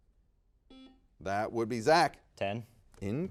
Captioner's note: buzzer dings